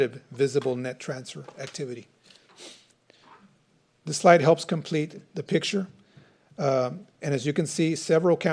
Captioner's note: snorts